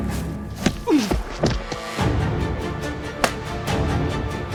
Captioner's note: kick thuds